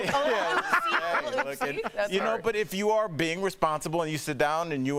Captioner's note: laughter